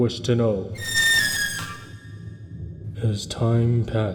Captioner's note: loud shriek